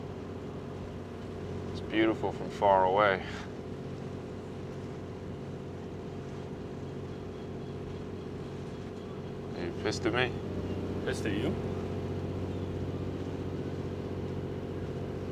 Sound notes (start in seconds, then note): none